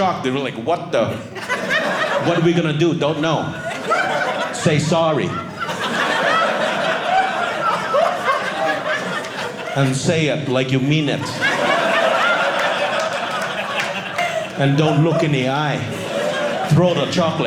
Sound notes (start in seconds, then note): 5.1 audience laughing; 11.2 audience laughing